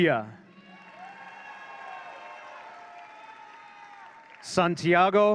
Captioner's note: audience cheering